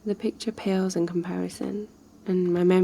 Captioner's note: none